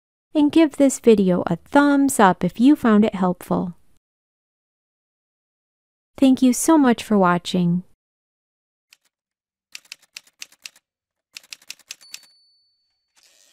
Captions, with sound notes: And give this video a thumbs-up if you found it helpful. Thank you so much for watching! [Typewriter sounds]